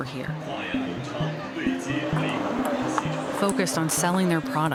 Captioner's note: man speaking on P.A. system